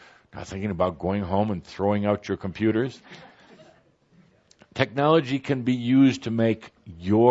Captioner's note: some laughter